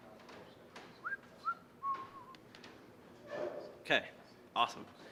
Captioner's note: whistling